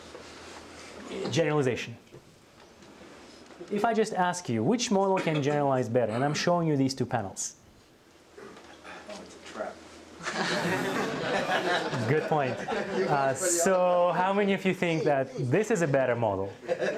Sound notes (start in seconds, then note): 10.2 audience laughter